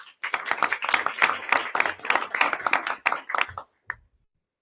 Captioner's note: audience applause